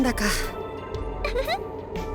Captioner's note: awkward laugh; giggle